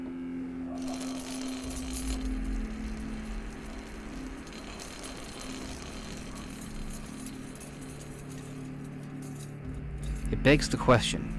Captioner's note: horrid rattling